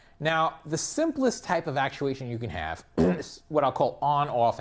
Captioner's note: cough